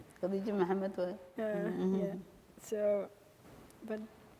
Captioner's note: speaking foreign language